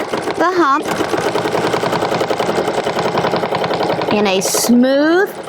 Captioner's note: machine whirring